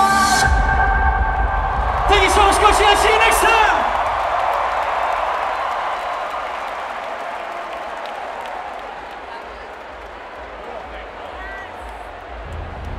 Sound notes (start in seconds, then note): 0.2 music stops with a bang; 3.9 crowd cheering